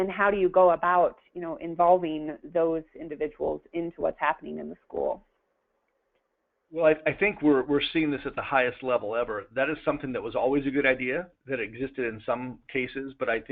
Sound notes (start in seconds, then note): 6.7 pause